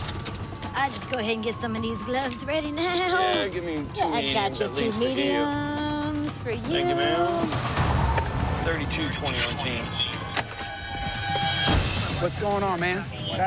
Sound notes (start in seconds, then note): 9.0 radio beeps